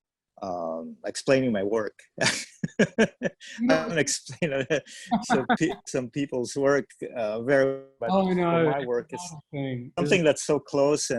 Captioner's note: laughs